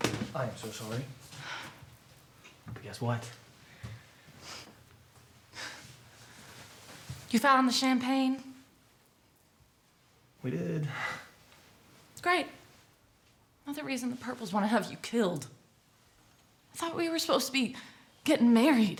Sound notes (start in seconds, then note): none